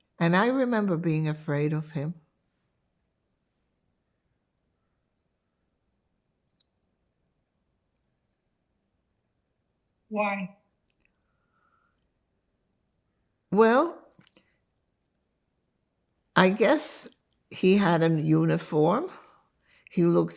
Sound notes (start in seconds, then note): 2.2 pause 7 seconds